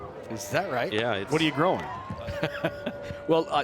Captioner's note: laughing